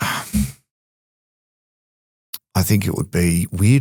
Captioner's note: sighs